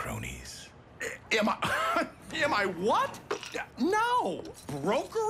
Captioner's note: laughs incredulously